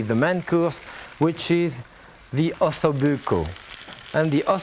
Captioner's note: food sizzling